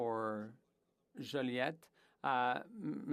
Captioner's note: speaking French